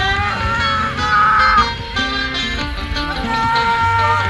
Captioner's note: screams